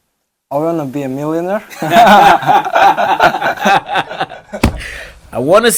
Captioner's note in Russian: смеются